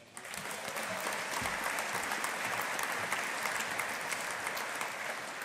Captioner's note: audience applauding